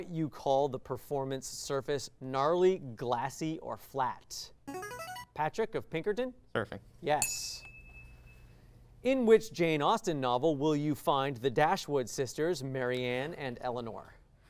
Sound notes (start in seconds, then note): 4.6 signaling device tone; 7.2 ding